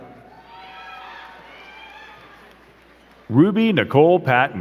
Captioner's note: crowd cheering and clapping